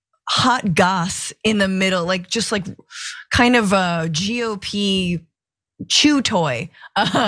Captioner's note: laugh